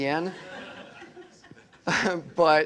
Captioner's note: laughter